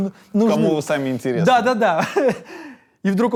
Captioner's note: laughs